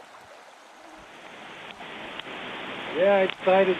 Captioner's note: tap tap